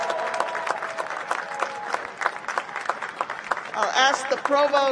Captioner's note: cheers and applause